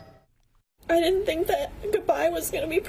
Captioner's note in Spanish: habla en ingés